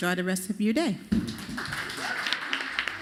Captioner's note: applause